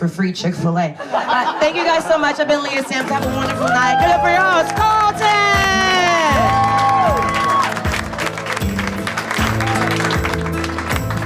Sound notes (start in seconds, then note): 5.7 audience cheers; 9.2 country music